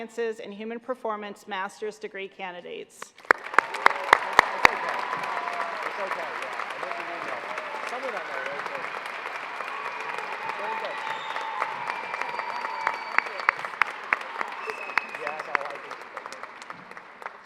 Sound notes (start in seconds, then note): 3.0 applause